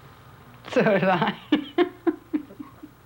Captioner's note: laughs